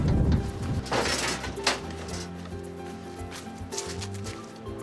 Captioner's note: metal clanging